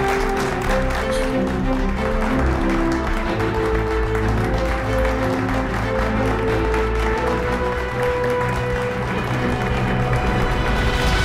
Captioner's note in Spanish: Aplausos